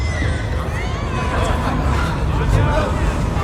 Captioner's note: shouting, chatter